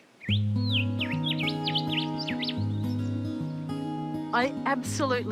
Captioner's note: birdsong